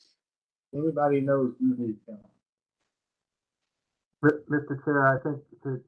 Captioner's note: mumbling